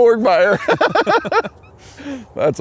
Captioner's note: all Laughing